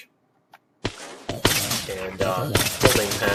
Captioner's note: splat